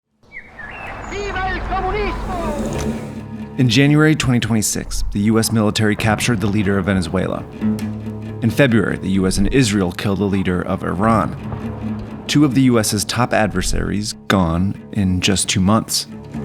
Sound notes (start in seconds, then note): 0.2 birds chirping; 1.2 speaker speaking in Spanish